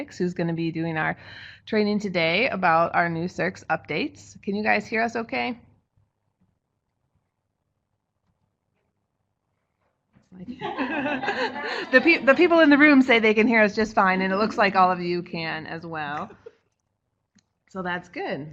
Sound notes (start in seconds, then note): 5.2 no sound. Waiting on response from webinar participants in chat box